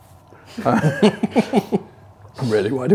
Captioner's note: laughs